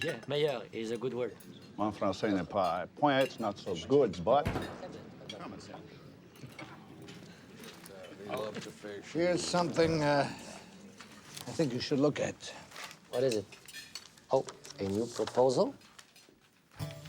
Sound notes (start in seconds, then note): 0.0 speaks in foreign language; 4.8 door bangs open